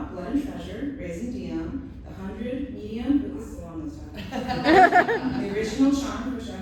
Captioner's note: laughter